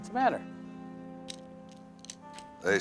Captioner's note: vehicles approaching